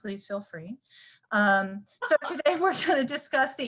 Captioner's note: laughter